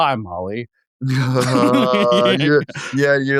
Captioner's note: laughing